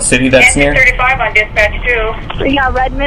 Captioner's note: radio